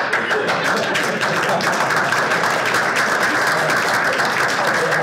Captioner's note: audience applauding